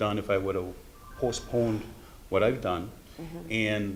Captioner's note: none